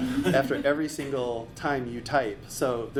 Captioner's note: laughing